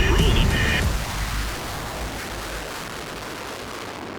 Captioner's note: aircraft humming